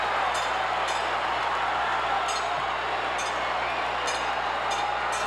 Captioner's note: audience cheering continues